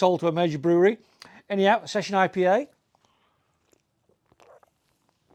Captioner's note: slurps